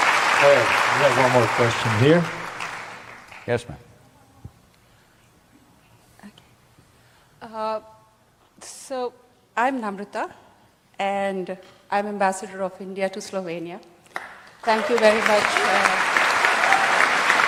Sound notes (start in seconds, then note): 14.1 applause